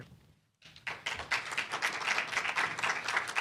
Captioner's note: audience applauding